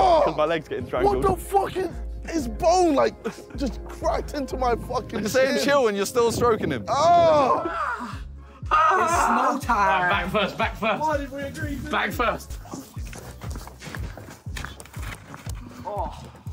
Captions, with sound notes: What the fuck? Its bone like, just cracked into my fucking shin. - Staying chill and you're still stroking him. (groans) - It's small time. - Back first, back first. Back first.